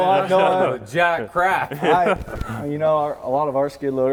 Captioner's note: everyone laughing